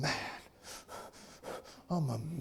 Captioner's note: breathing heavily